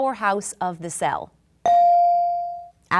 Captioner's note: bell dinging